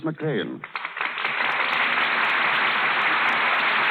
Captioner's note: applause